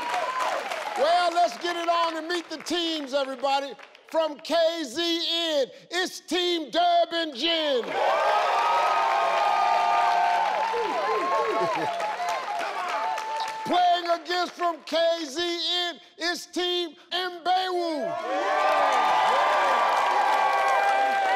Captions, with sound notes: Well, let's get it on and meet the teams, everybody. From KZN, it's Team Durban Gen. (audience cheering) Playing against from KZN, it's Team Imbewu. (audience cheering)